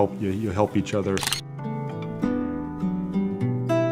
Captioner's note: camera shutter clicks